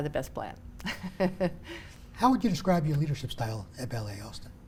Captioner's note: chuckling